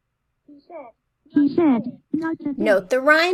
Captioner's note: computer voice